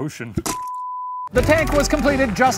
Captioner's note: beeping